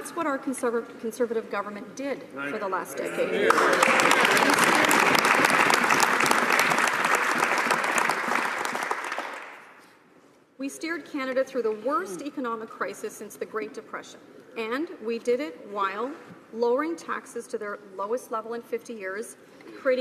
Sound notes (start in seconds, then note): 7.8 some applause